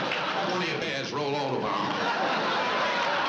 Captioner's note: chatter